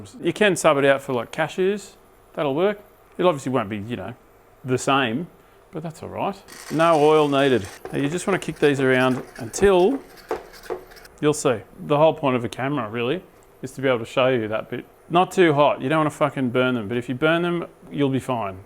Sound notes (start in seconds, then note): none